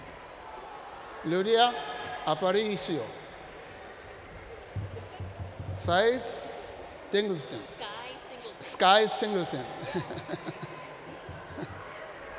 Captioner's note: laughs